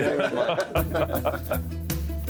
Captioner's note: laughter